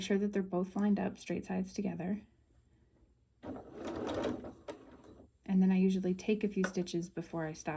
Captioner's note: machine noise